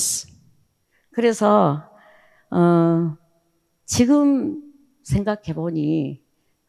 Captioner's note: speaking in foreign language